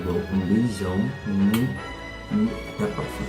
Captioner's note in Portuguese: smack!